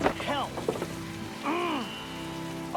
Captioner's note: Jakob growls